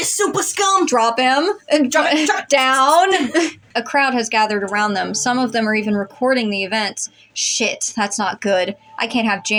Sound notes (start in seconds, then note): 2.8 chuckle